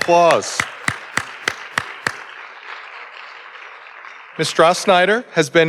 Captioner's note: audience applauding